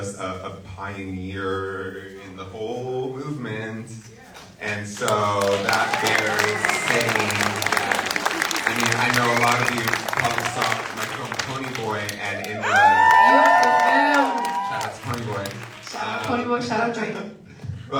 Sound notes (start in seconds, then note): 7.1 audience applauds; 13.3 audience cheering